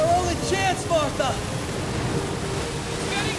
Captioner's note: water flowing